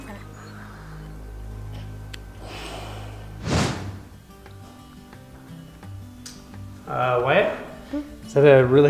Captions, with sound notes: Another. (whooshing) (gentle upbeat music) - Wyatt?